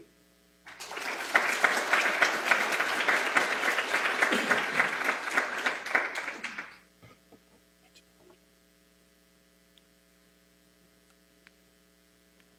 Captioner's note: applause